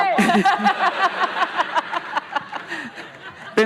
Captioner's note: laughing